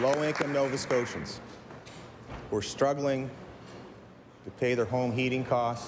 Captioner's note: applause